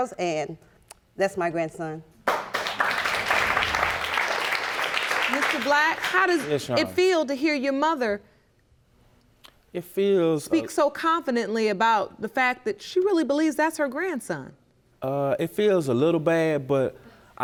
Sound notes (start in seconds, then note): 2.2 audience applauding